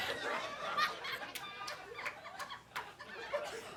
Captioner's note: audience laughing